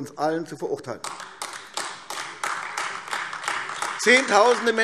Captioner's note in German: Beifall AfD